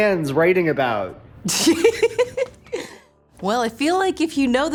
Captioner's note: giggles